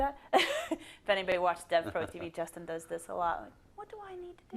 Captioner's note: laugh; laugh